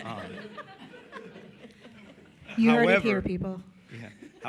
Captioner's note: laughter